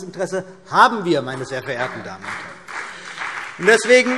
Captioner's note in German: Beifall BÜNDNIS 90/DIE GRÜNEN und vereinzelt CDU